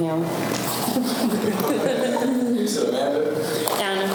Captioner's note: group laughter